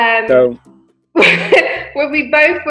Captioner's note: laughs